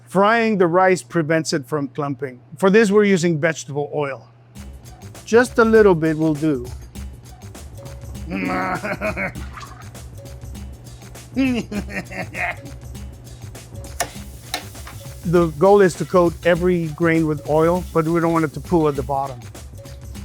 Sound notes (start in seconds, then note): 8.7 laughs; 13.4 upbeat music